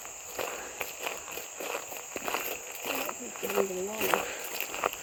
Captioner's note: gravel crunching